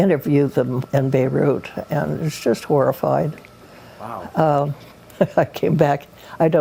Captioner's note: laughs